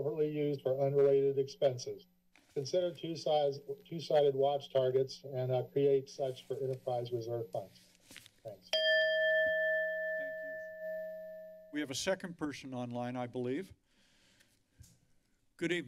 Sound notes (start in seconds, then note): 8.7 bell rings; 13.9 silence